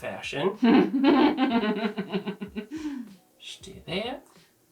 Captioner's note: laughing